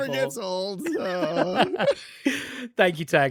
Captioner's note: laughter